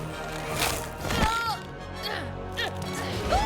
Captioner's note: grunting